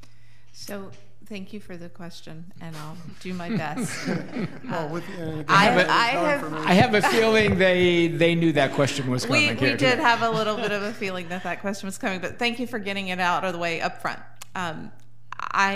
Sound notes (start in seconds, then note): 4.0 laughing; 4.3 chattering